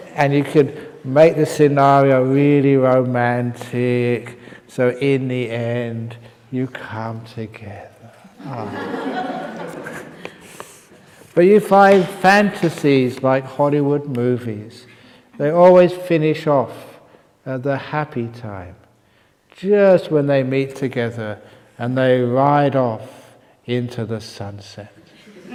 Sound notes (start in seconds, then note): 0.0 laughs; 8.3 laughter